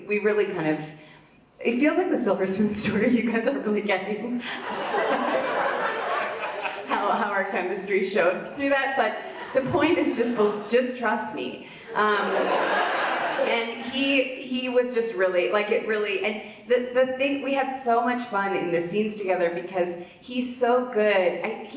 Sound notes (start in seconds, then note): 4.4 audience laughs; 4.5 laughs; 11.9 audience laughs